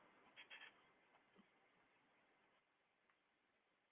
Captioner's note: none